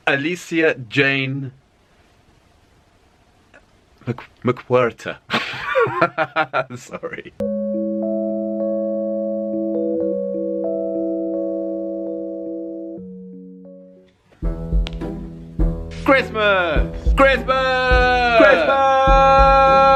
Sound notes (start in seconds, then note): 5.3 laughs; 14.4 gentle music